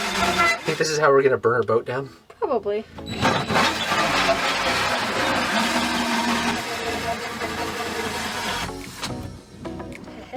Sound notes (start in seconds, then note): 3.1 machine whirring; 3.8 mellow music